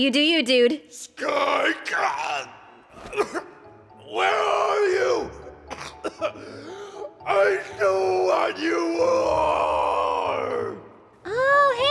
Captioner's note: cough